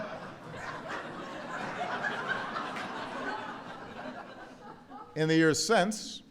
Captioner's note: laughter